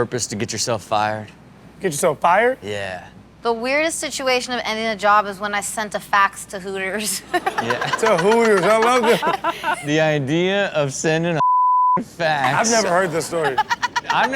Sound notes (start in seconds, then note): 7.1 laughs; 11.4 beep